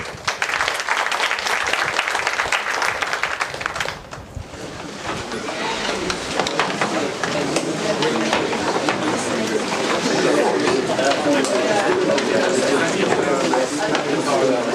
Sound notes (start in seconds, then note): 0.0 applause; 3.9 background chatter